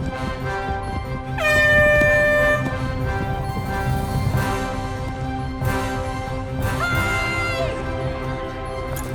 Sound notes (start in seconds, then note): 0.1 air horn blowing